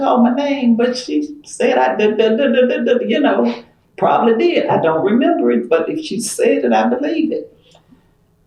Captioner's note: stutters